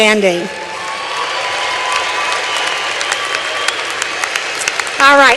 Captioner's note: applause